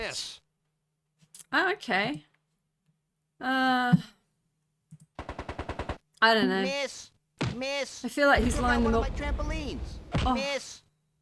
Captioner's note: gunfire